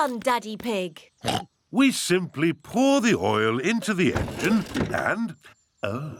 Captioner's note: oinks